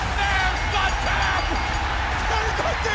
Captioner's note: crowd cheering; bell ringing